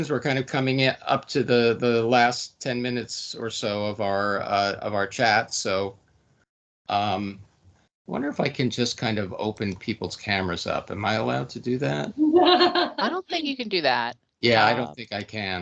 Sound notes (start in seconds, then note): 12.2 laughing